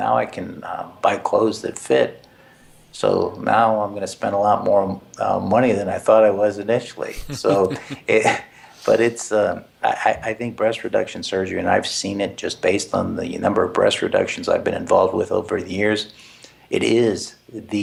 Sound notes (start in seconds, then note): 7.1 laugh